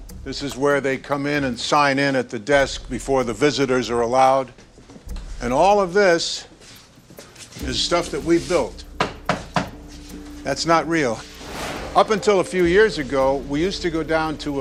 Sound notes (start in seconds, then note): 0.0 gentle music; 9.0 Jerry knocking